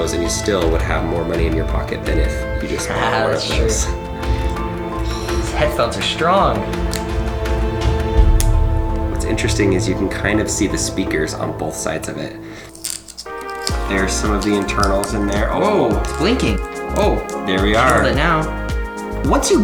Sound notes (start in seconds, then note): 6.8 clicking; 12.7 clicking